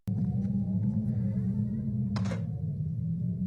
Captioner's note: door Creaking